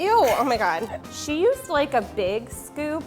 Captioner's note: laughing